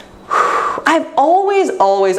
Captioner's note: exhaling deeply